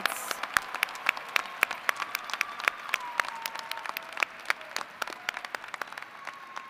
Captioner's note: applause